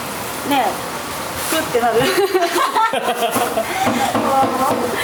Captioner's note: laughs